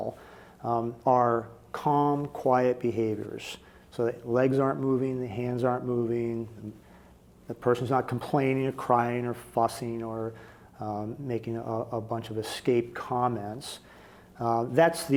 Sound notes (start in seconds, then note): none